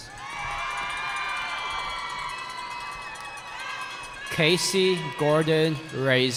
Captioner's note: cheering